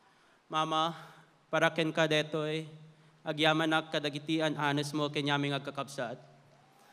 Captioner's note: speaking in Filipino; applause